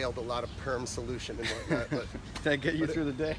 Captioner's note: chuckles